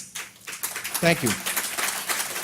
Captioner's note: audience applause